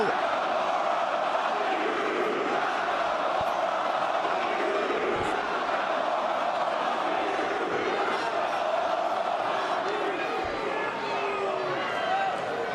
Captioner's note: crowd cheering